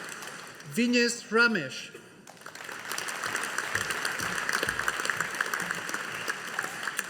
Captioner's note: audience applauding